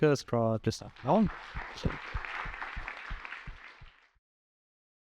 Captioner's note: applause